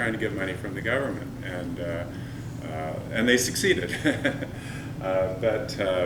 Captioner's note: chuckle